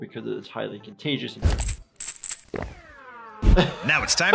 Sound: pill bottle shaking; laughs

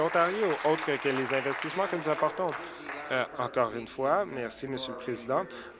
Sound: applause

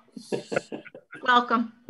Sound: laughing

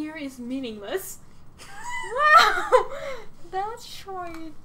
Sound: both laughing/saying "Oh."

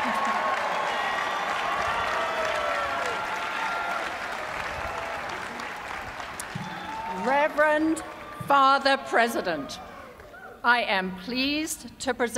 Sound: cheers and applause

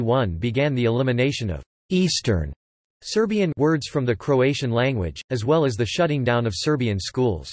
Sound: Serbian

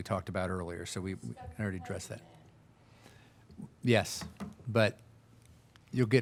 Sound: speaking faintly

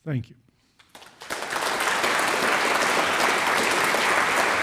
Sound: audience applauds

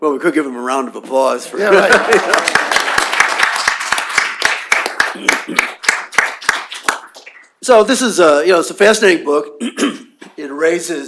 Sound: laughter; applause

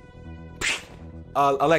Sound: slap

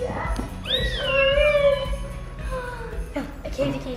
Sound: excited squeals

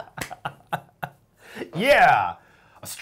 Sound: laughing

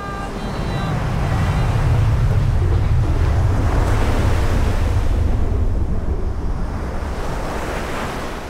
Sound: ocean sounds

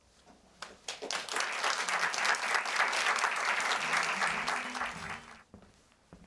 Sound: applause

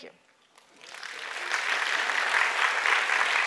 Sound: applause

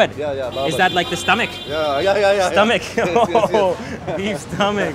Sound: laughs

